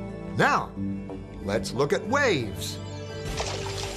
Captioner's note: none